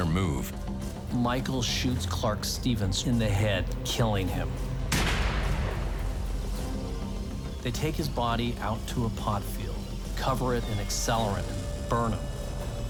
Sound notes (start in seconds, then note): 4.9 gun shot